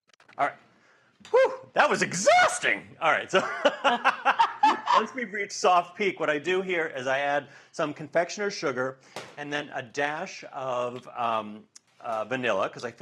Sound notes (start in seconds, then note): 3.3 both laugh